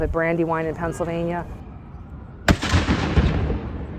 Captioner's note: cannon